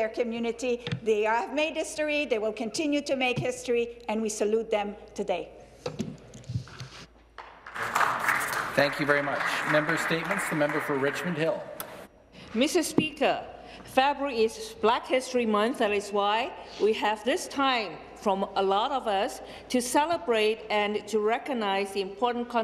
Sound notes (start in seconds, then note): 9.5 some Applause